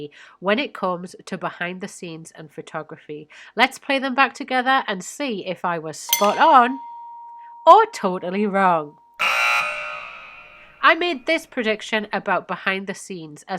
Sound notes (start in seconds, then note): 6.1 bell dings; 9.2 buzzer buzzes